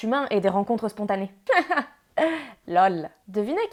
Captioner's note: ironic laugh